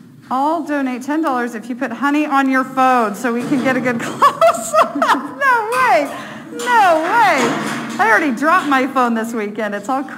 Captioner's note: laughing